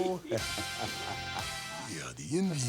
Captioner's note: Flair and Curt laugh